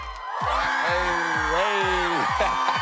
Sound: cheering

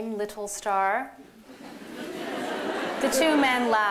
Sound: laughter

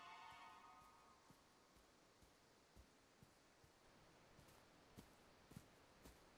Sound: footsteps

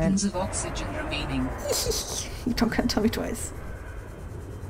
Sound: distant roar

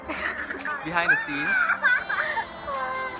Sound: screaming at the back

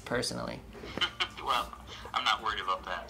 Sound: laughing

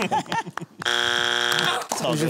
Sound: buzzer

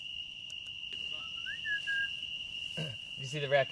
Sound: whistling

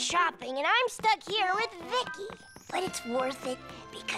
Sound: none

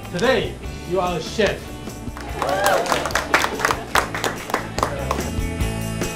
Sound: applause and Cheering

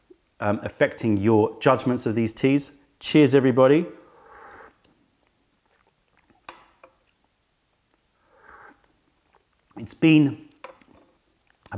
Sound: sips tea

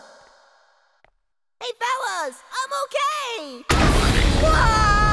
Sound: cheerfully

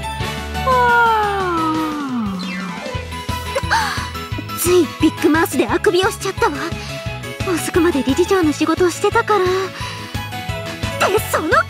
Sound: yaaawn; gasp

